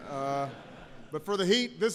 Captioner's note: laughter